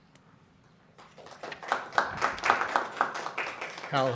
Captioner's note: applause